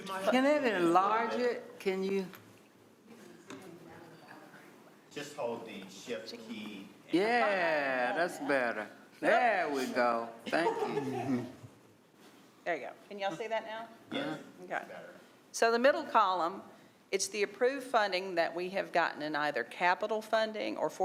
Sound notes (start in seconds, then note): 10.1 others talking and laughing